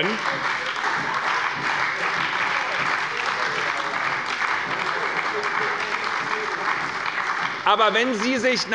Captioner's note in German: Heiterkeit und Beifall bei der : Ei, ei, ei!